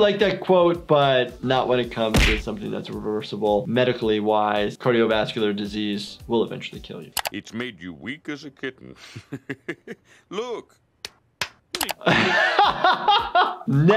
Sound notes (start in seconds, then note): 8.6 laughs; 11.0 slaps face; 11.9 laughs